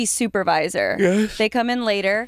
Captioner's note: yawning